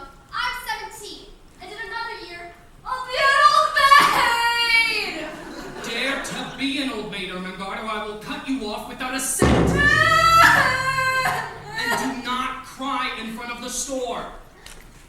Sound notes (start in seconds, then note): 9.4 bangs drum; 9.8 Ermengarde cries